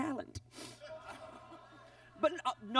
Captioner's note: audience laughs